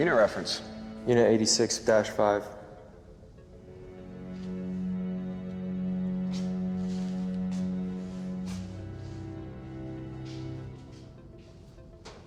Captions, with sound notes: - Unit reference. - Unit 86-5. (suspenseful music continues) (footsteps thumping)